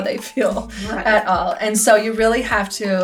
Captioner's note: laughs